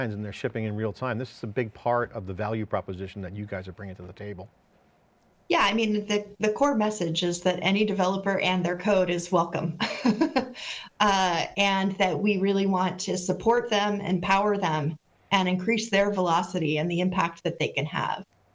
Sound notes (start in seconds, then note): 9.8 laughs